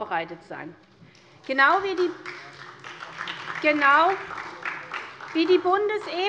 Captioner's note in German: Beifall SPD